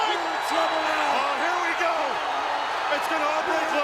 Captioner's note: audience cheering